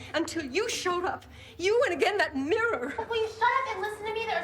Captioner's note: none